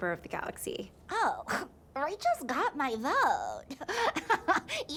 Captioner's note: scoffs; laughs